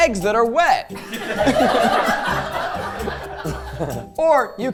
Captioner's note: crew laughing; laughing